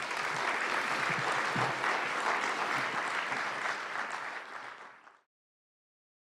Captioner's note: clapping